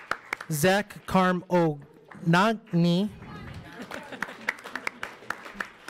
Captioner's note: audience applauds